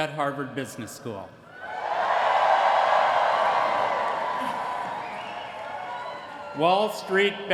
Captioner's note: cheering